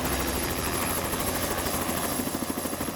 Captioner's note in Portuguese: som de helicóptero